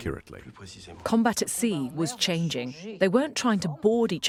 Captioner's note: voiceover